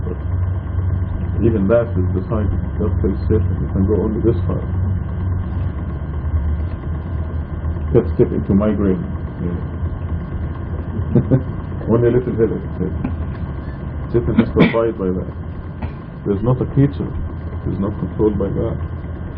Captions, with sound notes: but even that is decided, God tells Satan you can go only this far can't step into Migraine yeah (laughing) only a little headache Satan has to abide by that there's not a creature that is not controlled by God